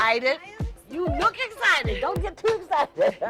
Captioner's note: laughs